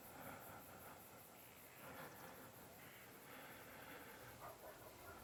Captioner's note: crickets chirping